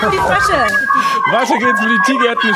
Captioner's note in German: Jubel